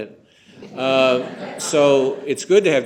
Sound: laughter

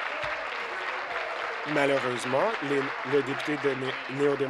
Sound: applause

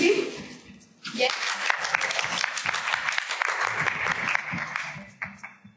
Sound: applause

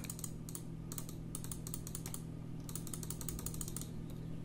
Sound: mouse clicking

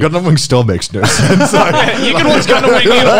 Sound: laughing loudly

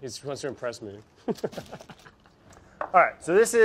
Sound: laughs

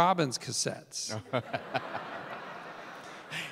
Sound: Tim and audience laughing

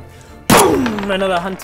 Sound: boom!

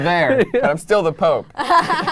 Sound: laughing

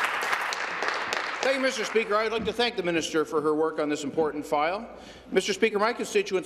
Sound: applause

